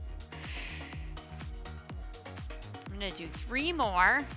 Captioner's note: exhaling deeply